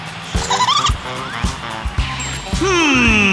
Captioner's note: giggling